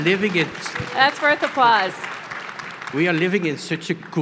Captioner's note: crowd applauds